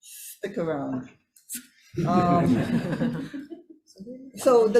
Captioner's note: everyone laughing